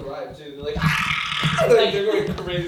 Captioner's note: yells